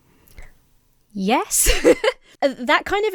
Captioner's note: laughs